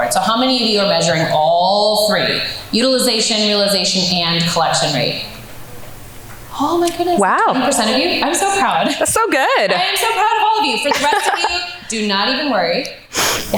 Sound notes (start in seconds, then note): 10.8 laughs